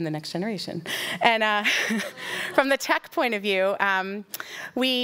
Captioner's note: laughing